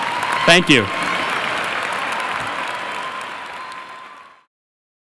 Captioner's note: audience applauding; audience cheering